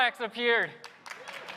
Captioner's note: applause